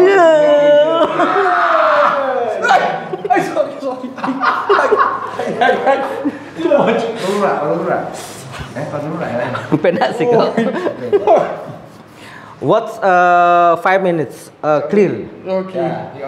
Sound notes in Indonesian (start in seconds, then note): 3.7 tertawa